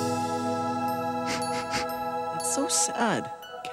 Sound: ethereal music; Wegbert sniffling

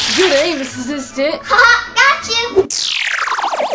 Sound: chuckles

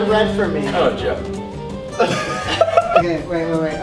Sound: electric guitar; laughs

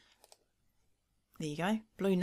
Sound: mouse clicking

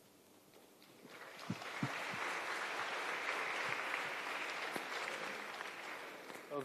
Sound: applause

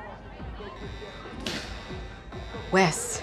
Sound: alarm going off

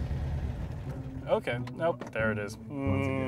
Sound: engine dies

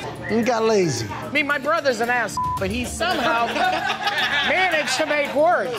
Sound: beep

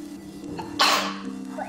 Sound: sneeze

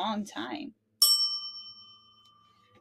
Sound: bell dings

